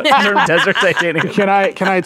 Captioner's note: laughing